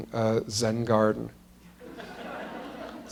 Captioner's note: laughter